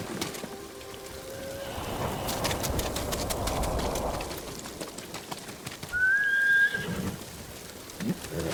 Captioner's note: thunder rumbling; whistling; horse neighing